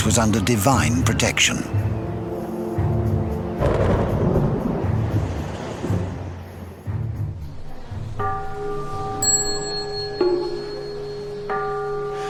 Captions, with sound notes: was under divine protection. (thunder rumbling) (gentle music)